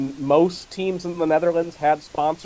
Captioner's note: none